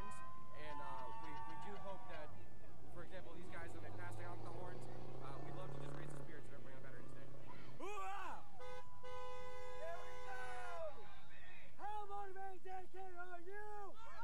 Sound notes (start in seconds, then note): 8.4 horns honking